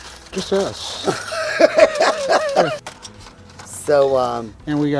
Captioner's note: laughs